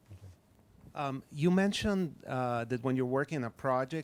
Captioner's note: voiceover